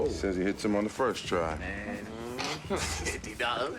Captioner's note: groans